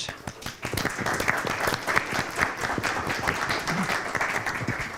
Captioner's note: applause